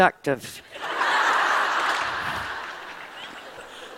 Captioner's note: laughter